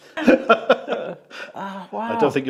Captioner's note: laughs